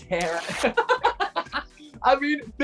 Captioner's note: laughing